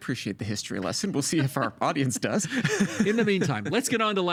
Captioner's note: laughing